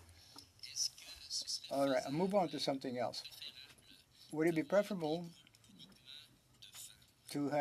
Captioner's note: speaking French